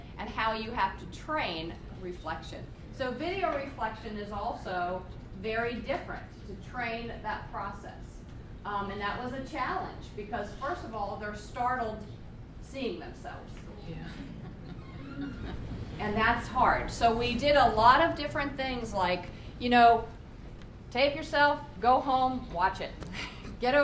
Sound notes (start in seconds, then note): 14.1 laughter